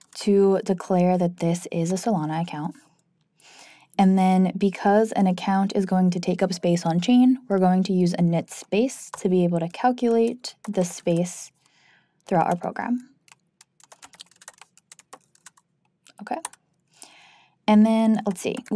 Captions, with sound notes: to declare that this is a Solana account. And then because an account is going to take up space on-chain, we're going to use a InitSpace to be able to calculate the space throughout our program. (keyboard clanking) Okay, and then let's see,